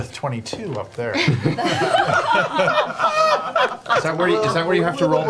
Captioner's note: all laugh